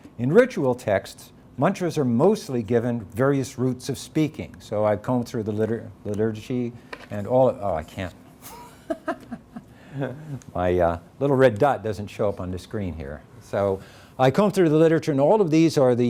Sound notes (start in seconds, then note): 8.4 laughs